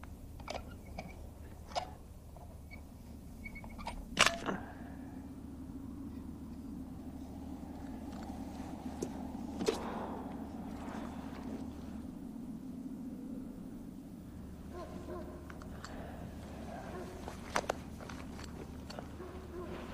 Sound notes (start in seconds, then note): 3.8 clanks; 9.1 wind howls; 14.6 distant dog barking